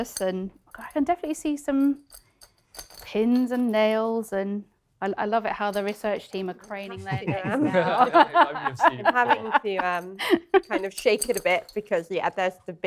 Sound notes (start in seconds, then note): 6.8 laughter